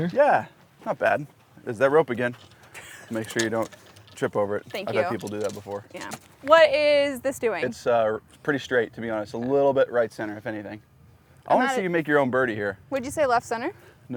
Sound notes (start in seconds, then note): 2.9 laughs